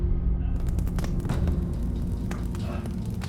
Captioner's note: fire crackling